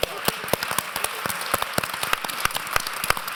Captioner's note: applause